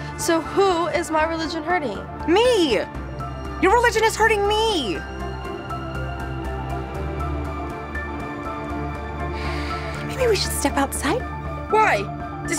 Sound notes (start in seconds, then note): 9.3 sighs